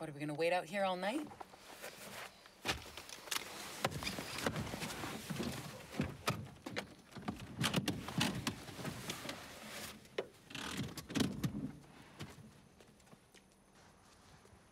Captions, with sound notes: - What, are we gonna wait out here all night? (door clicks) (car seat rattling)